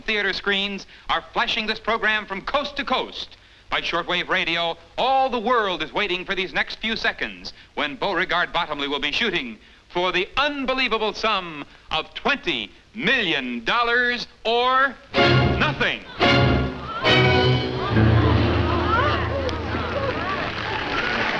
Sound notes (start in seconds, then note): 17.8 crowd exclaiming